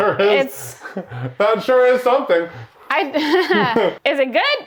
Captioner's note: laughs